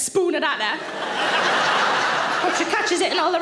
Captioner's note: audience laughing